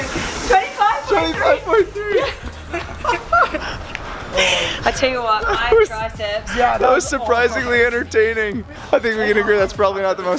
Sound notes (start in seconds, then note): 1.2 laughing